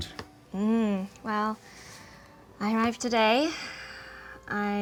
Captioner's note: hums knowingly